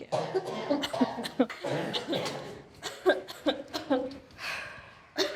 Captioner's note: inmates coughing